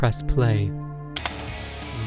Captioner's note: keyboard clack